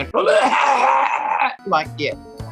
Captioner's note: heaving cough